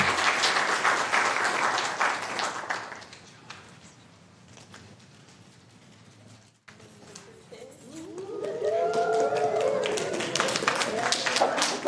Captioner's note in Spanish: Aplausos